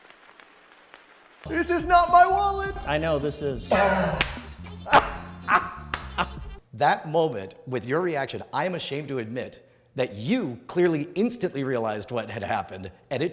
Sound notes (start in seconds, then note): 4.8 laughs; 4.9 claps